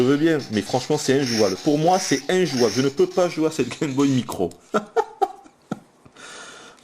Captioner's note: laughs